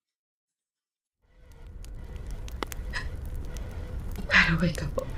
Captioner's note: fire and sirens